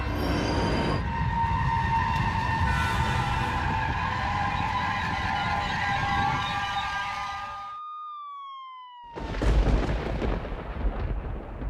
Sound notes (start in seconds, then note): 0.0 train rumbling; 8.1 ambulance sirens wailing